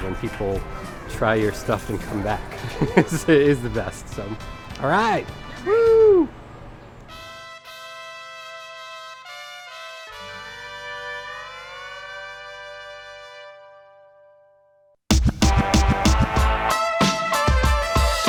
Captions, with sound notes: when people try your stuff and come back. (laughing) It's the best. All right, woo. (lively trumpet music) (upbeat music)